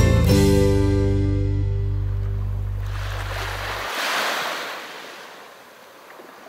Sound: music ends, wave sounds are heard

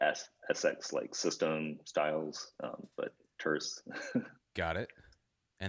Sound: laughs

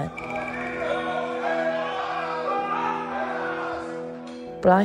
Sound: men yelling

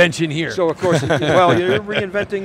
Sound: laughing

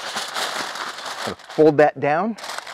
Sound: foil crinkling

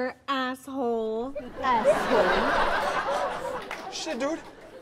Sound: audience laughs

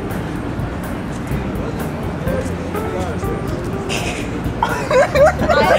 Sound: laugh

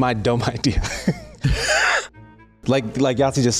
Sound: laughs

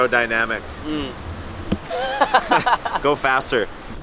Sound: laughs

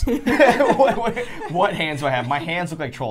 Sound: all laughing

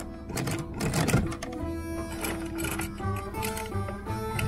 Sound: winch grinds

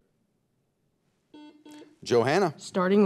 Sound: timer beeping

